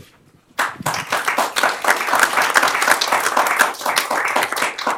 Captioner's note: applause